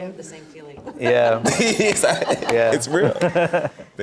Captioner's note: all laughing